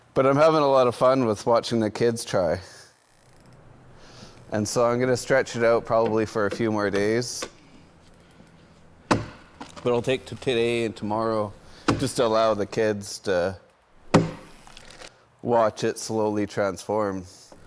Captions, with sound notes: But I'm having a lot of fun with watching the kids try. And so, I'm gonna stretch it out probably for a few more days. (tool banging) But I'll take today and tomorrow just to allow the kids to watch it slowly transform.